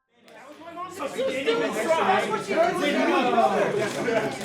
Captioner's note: group chattering